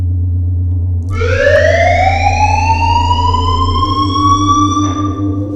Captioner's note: siren goes off